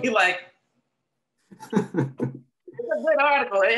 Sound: both laughing

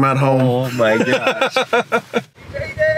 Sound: laughing

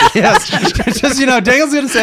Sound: laughing

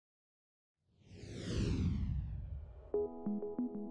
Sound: air whooshes; bright music

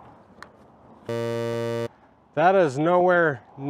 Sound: buzzer sounds

